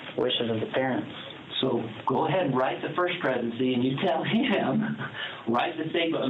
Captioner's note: laughs